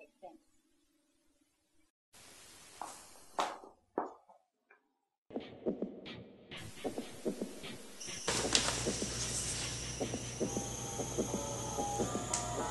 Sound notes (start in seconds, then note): 4.3 heels click